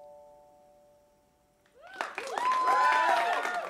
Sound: cheers and applause

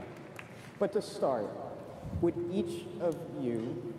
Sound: applause

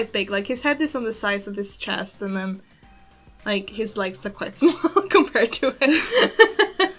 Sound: laughs

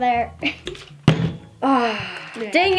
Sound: bottle landing

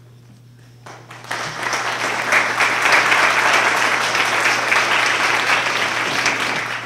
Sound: applause

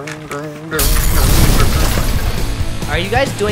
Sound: explosion

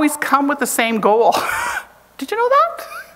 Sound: chuckles

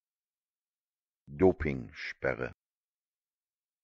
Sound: fast Pronunciation

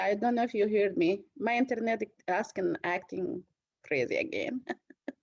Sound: laughter

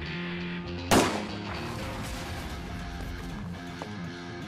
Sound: guns banging

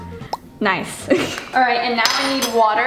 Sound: chuckles

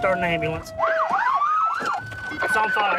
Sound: sirens

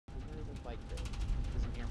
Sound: plane rattling

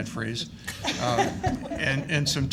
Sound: laughing

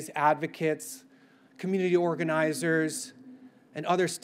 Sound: none

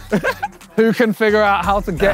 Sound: chuckles

